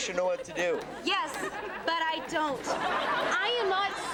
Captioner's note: audience laughs